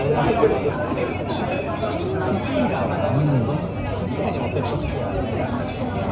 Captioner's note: makes a sound of enjoyment: Mmm~